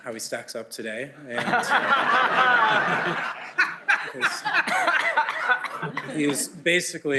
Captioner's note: laughter